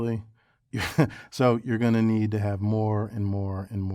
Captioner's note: laugh